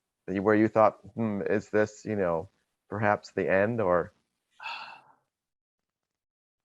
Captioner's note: sighs